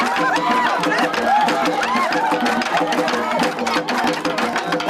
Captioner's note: crowd cheering